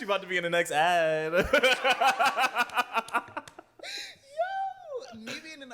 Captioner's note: laughter